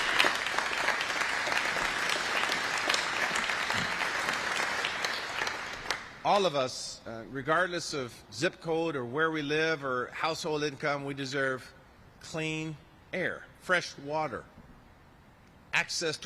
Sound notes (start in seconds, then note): 10.3 applause